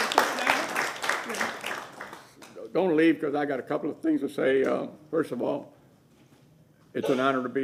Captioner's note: applause